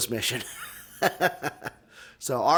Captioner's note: laughs